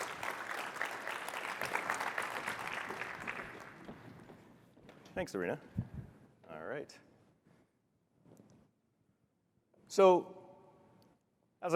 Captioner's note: applause